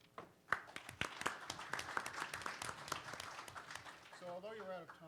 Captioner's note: participants applaud